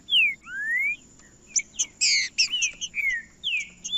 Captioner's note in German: trinca ferro cantando